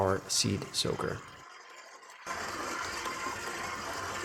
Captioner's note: mixer buzzes